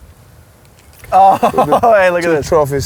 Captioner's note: laughs